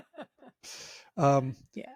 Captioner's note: laughing